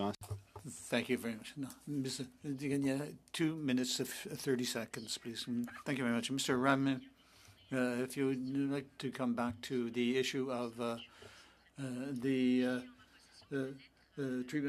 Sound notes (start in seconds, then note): 6.7 speaking French